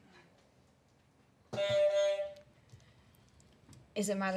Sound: honk

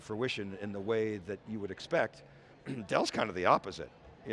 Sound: coughs

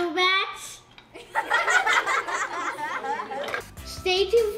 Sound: laughing

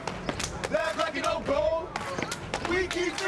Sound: chanting continues

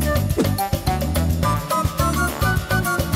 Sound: whooshes; lively tropical music

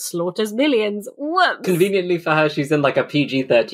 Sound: laughing

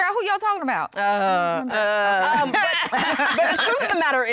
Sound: groans

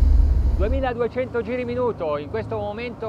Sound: speaking in foreign language

